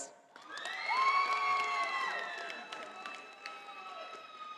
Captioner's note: audience applauding